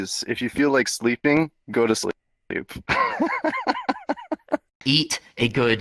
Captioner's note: laughter